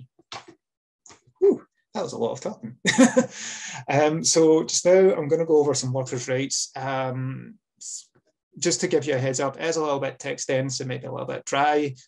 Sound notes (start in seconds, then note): 3.1 laughs